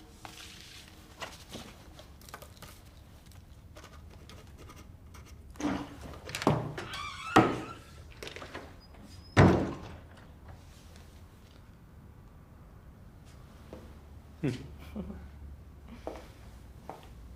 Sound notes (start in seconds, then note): 7.3 door creaking; 14.5 both chuckling